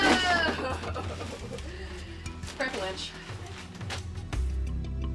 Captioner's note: laughs